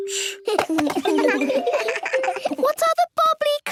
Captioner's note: giggles